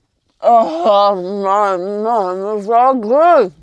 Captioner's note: person grunting